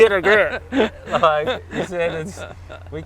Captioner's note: laughs